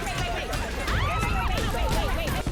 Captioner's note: screams